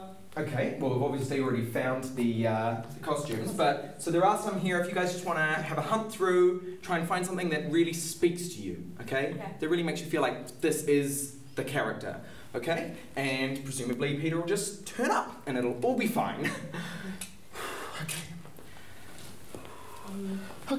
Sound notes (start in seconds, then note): 16.5 laughs; 19.5 deep breathing